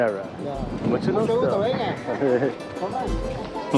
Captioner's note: man speaking in foreign language; upbeat music